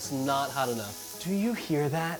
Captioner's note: pan sizzling